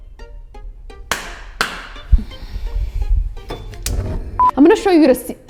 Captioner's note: husband clapping